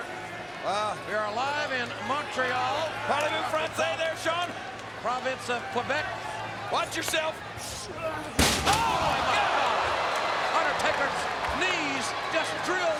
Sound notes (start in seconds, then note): 2.7 speaking foreign language